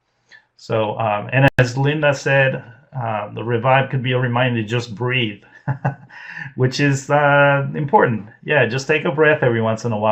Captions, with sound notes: So and as Linda said the ReVibe could be a reminder just breathe (laughs) which is important.